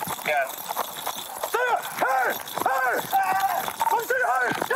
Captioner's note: shouting